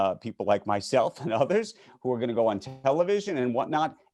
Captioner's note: chuckles